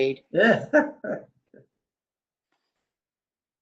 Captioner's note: laughs